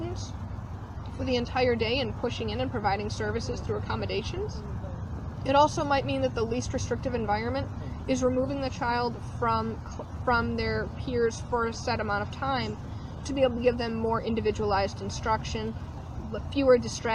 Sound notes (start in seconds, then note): none